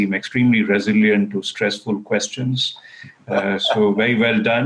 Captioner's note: laughing